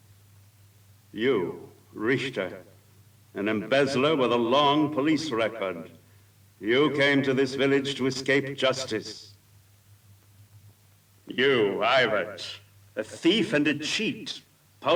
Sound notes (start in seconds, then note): none